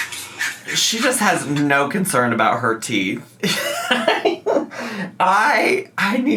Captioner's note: laughs